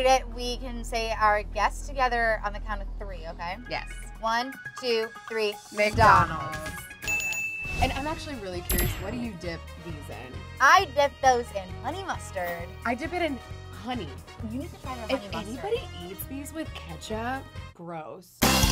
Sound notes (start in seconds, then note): 6.9 ding; 18.4 upbeat music